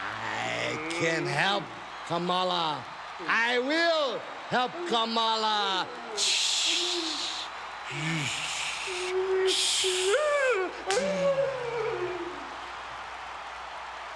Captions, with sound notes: I can help Kamala. I will help Kamala. (Mr. Fuji inhales and exhales rhythmically) (Kamala wails)